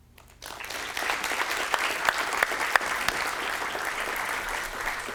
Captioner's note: applause